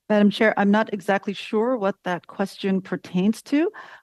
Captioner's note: speaking french